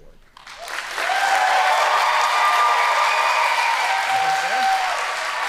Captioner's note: audience applauding